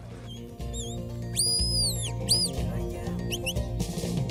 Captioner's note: whistling